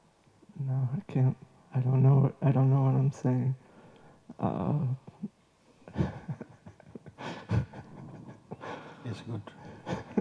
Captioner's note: laughs